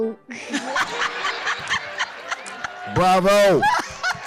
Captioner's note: laughing